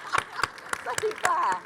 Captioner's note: all applauding; panelists chuckling